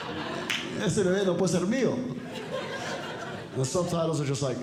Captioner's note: audience Laughing; speaking Spanish